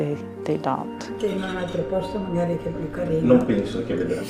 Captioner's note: speaking in foreign language